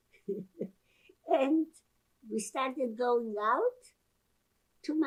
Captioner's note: laughing